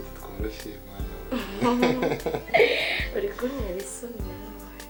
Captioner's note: both laughing